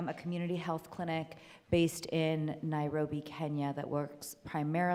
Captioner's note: none